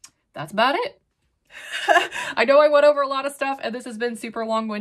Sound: chuckles

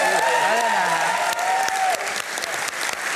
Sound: applause

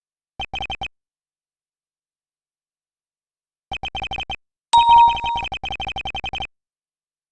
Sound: sounds of connection with the police phone line

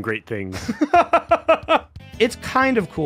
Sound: laughs

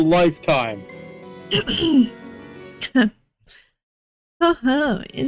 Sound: clears throat

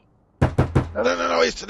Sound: knock Knock Knock

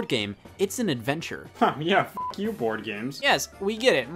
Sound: beep

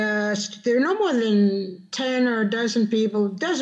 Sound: speaking Spanish

